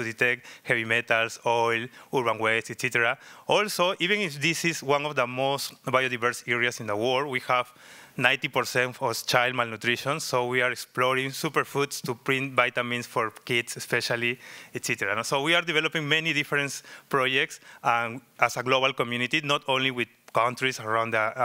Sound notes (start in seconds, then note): none